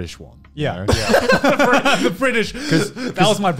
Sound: laughing

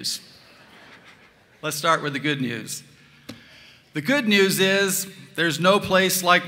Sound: laughter

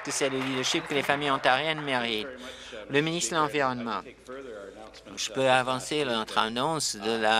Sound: applause

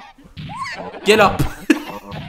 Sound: laughs

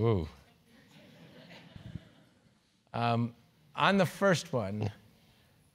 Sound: laugh

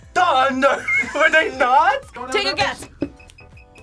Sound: laughs

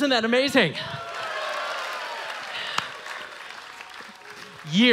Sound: audience cheering

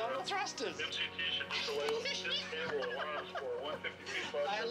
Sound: laughing

